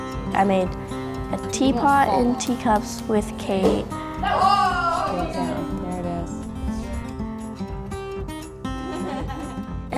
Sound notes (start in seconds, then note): 4.2 both shout; 7.3 upbeat guitar music; 8.8 both laughing